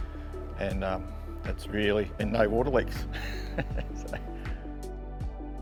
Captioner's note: laughs